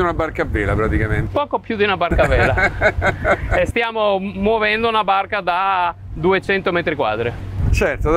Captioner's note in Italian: risata